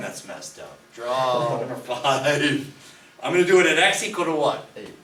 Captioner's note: voiceover; laughs